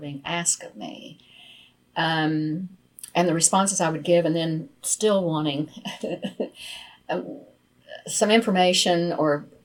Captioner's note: laughs